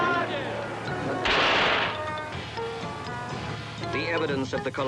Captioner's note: guns firing